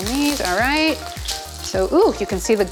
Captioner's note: sizzling food